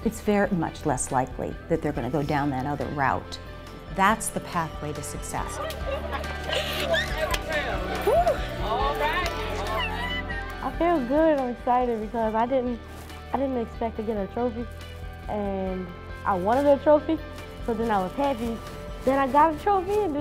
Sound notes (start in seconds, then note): 6.7 cheers